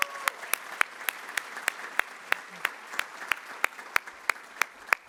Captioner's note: applause